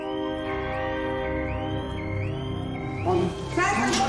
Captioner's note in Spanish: Suena alarma